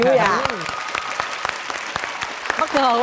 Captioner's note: applause